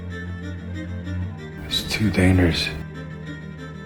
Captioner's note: voiceover